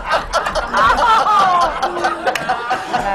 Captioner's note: laughter